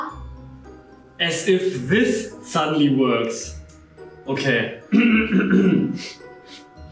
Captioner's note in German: Räuspert sich